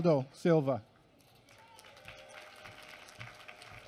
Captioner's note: applause